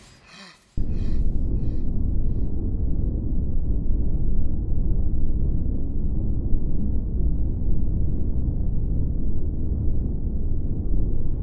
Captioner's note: wind noises